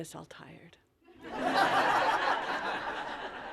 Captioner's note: laughter